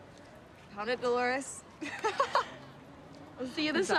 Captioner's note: laughs